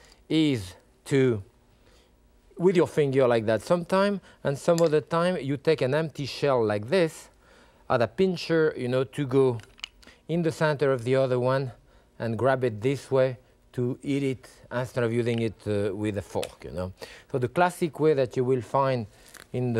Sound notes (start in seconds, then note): none